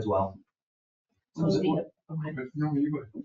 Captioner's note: people chatter